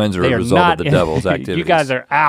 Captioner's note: chuckles